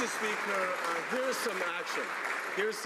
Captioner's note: some Applause